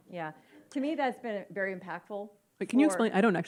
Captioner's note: audience mumbles agreement